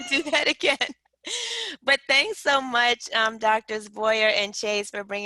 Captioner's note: laughter